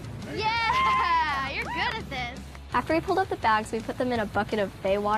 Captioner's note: all cheer